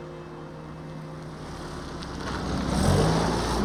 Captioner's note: none